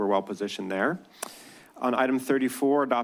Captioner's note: clicks tongue